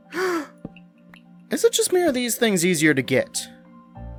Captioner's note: yet another gasp